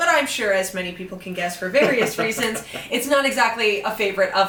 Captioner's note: laughs